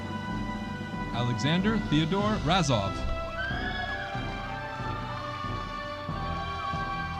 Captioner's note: audience applauding